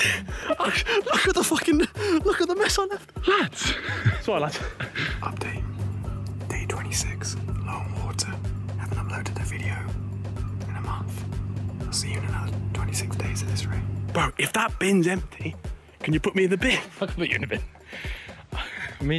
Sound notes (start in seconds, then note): 4.2 laughing